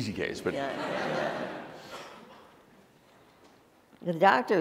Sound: laughter

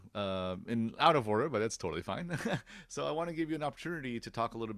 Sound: laughs

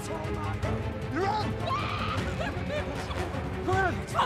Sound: Elsa screaming

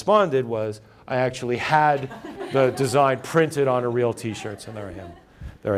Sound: laughter

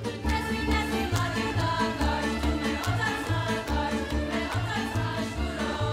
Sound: man clapping, slapping shoes; women singing

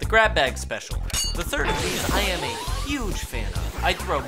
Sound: metallic ding, vacuuming noises

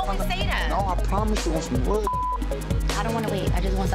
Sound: beep

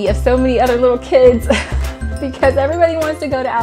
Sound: laughs

